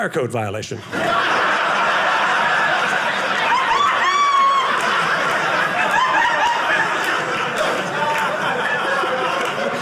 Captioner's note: audience laughing